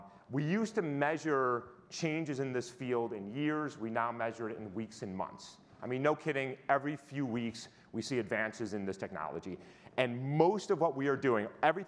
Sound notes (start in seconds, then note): none